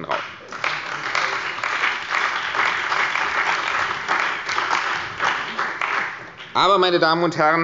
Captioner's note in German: Beifall bei der CDU und dem BÜNDNIS 90/DIE GRÜNEN